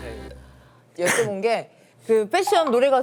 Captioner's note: achoo